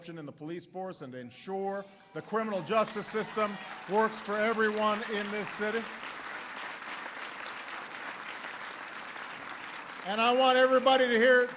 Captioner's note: applause